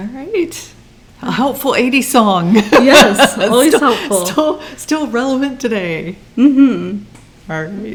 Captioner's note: laughs